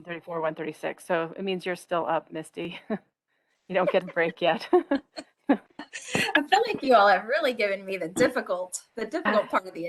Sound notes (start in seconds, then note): 3.8 laughter